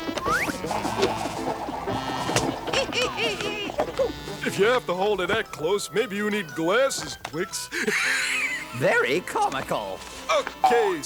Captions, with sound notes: -(Louie laughs) -Oh-ho! If you have to hold it that close, maybe you need glasses, Twicks. (laughing) -Very comical. -Okay, so what's the news?